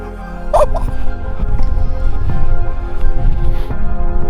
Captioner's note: man laughs